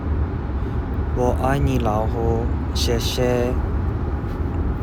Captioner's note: speaking Chinese